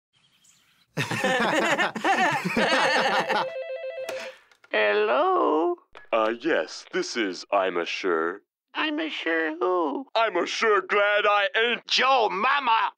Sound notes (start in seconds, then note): 0.9 both laugh